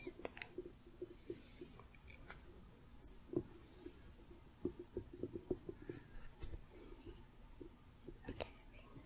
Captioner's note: gentle tapping